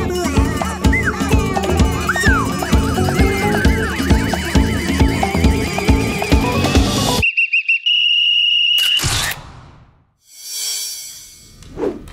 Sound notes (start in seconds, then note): 7.2 whistling